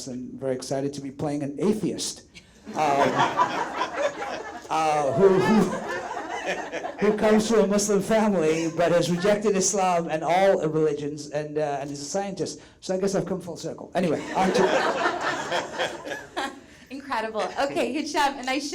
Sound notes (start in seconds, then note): 2.7 all laugh; 14.1 all laugh